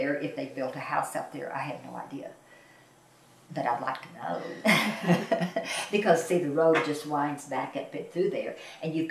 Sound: laughs

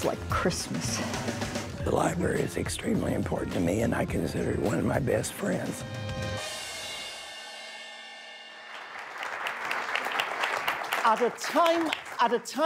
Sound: applause

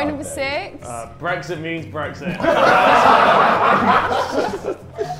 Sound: Sidemen laugh

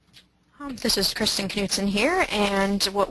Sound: voiceover

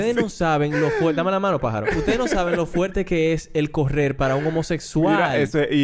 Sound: laughs; laughs

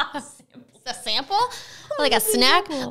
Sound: laughing; laughing

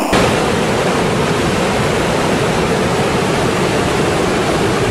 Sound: water rushing loudly

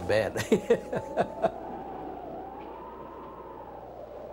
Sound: chuckles

